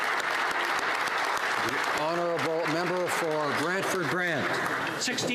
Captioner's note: applause